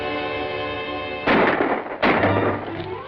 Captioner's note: gunshots